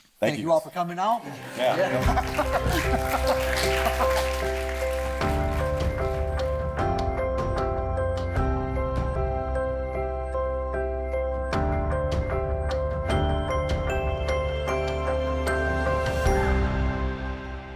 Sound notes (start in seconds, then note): 1.2 laughing; 1.2 audience applauding; 2.4 bright music